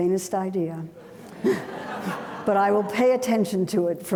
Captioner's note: audience laughing